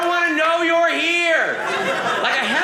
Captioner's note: audience laughing